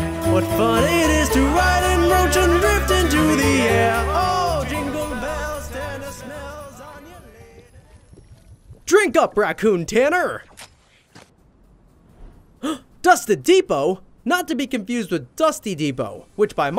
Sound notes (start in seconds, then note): 12.6 gasp